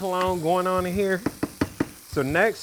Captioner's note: tapping pot